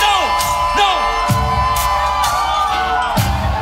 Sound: cheering

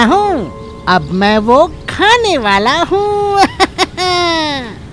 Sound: laughs

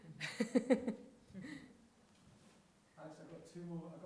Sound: chuckling; audience chuckling

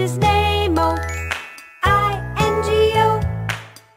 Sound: clap

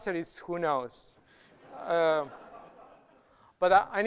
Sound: laughter

